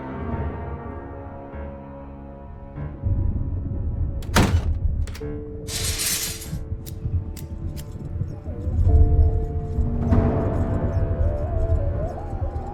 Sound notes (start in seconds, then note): 0.0 eerie music; 5.6 gate clangs; 9.7 eerie music